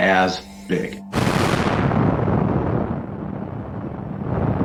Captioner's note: jet whooshing